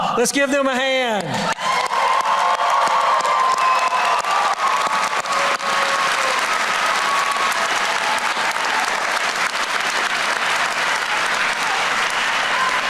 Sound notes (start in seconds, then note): 1.4 applause